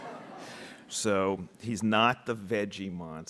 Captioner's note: audience laughing